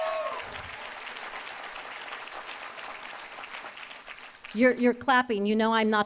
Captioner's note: applause